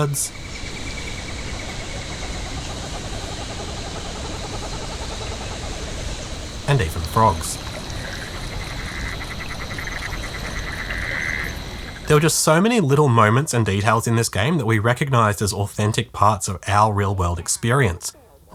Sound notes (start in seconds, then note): 0.4 familiar bird noises; 7.5 familiar frog noises